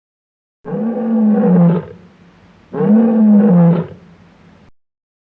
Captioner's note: lion roaring sound effect